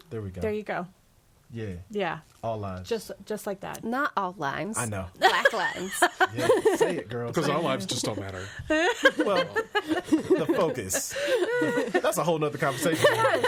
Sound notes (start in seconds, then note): 5.2 laughs; 8.6 all laughing; 11.1 all laughing